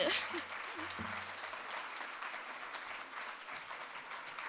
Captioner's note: audience claps